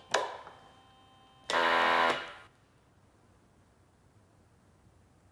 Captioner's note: machine blaring